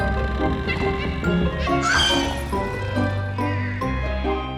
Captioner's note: cackling